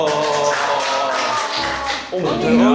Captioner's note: applause from pure amazement